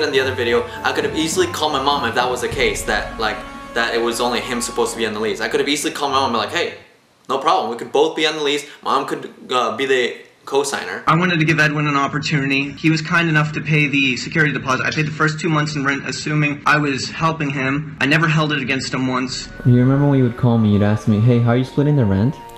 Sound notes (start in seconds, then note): none